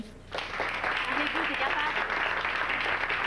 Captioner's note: Applaudissements